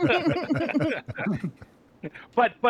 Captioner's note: laughter